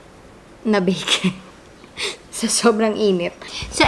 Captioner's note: laugh